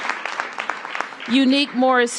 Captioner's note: applause